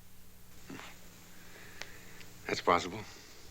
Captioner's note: scoffs